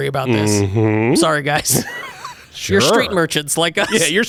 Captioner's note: laughs